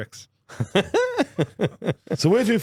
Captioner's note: laughing